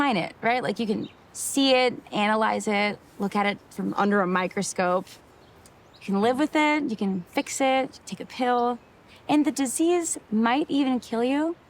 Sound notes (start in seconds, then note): none